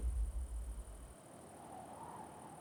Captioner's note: wind howling